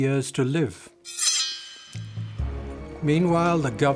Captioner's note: sword ringing